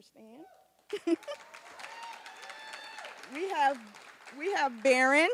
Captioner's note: applause